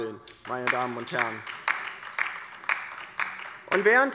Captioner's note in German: Beifall bei der LINKEN